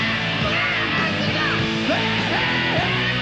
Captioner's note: screams